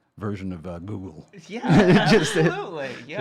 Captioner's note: laughing